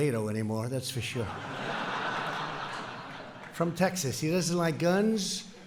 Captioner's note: laughter